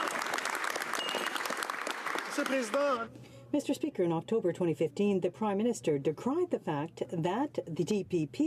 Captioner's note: some applause